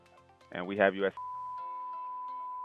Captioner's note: beep